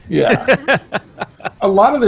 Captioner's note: laughing